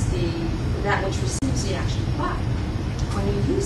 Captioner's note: non-english